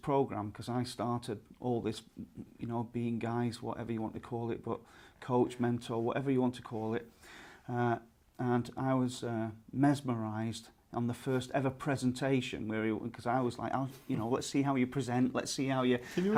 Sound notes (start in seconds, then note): 16.0 laughs